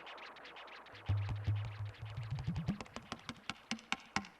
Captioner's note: finger taps